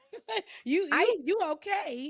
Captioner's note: laughs